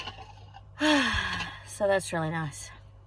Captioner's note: deep sigh